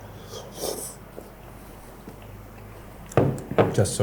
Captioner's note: slurping